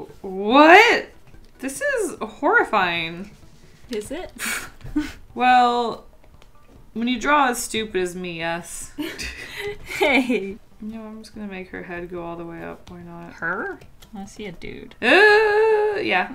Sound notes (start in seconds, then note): 4.4 chuckles; 9.0 both Laugh